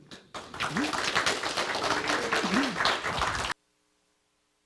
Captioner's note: audience applause